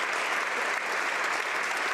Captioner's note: speaking French